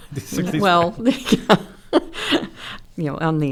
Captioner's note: chuckles